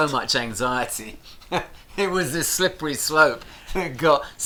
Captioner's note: chuckles